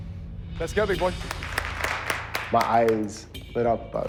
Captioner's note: applause